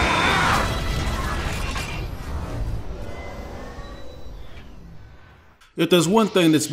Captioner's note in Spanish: Sonidos mecánicos